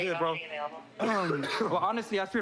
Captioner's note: coughs